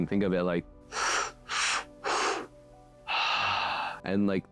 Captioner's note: breathing sounds